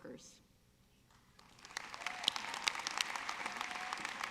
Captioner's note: audience clapping